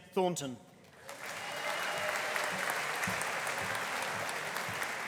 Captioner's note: audience applauding